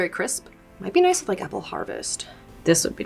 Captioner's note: image popping